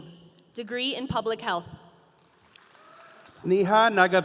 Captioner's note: audience applauding